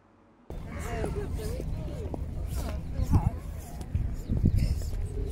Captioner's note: conversation, birdsong